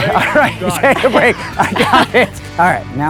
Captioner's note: laughs